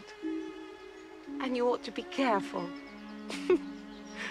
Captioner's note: Terkekeh